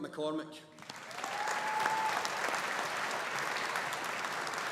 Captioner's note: audience applauding